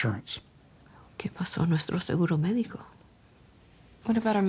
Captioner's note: Isabel speaking Spanish